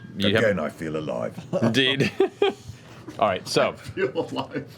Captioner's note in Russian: смеётся